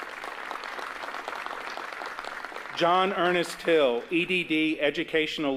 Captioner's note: applause